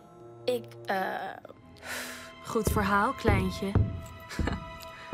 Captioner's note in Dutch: grinnikt